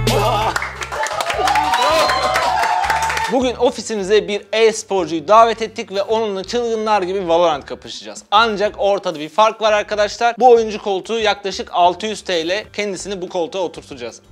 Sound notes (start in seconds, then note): 0.1 cheers